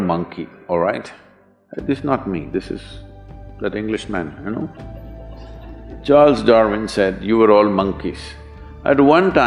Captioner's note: few laugh